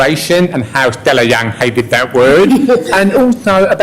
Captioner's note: laughter